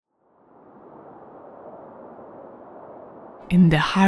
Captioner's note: wind whooshing